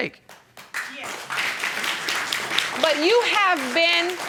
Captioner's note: audience applauding